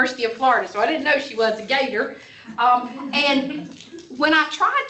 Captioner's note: laughter